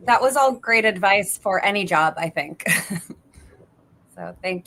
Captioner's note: chuckles